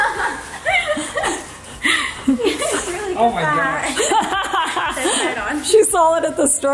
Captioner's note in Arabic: يضحك